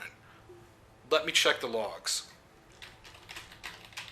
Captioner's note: typing